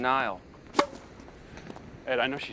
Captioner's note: popping